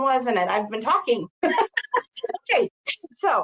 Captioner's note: laughing